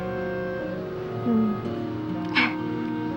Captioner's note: laughs